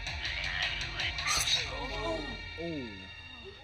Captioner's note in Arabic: صراخ